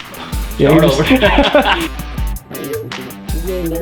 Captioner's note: haha